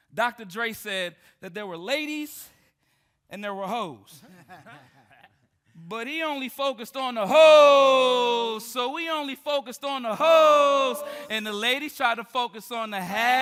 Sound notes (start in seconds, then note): 4.2 group laughing